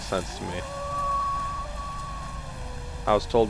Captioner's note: wolf Howls